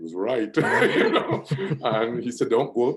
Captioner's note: laughs